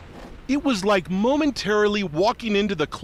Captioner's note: voice-over